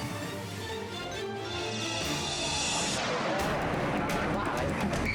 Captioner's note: dramatic music; screen whooshing; gunman speaking foreign language